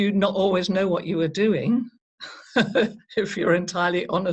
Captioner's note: chuckles